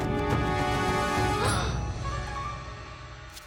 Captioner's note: gasping